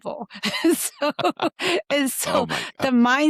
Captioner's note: laughts